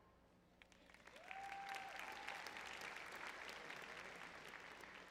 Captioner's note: audience cheering